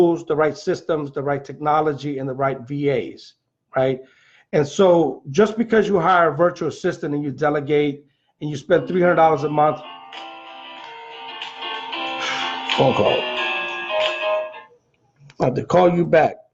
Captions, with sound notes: the right systems, the right technology, and the right VAs, right? And so just because you hire a virtual assistant and you delegate, and you spend $300 a month,-- (phone ringing) Phone call, I'll have to call you back.